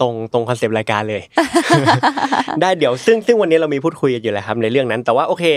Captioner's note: laughter